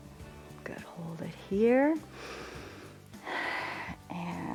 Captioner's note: inhales and exhales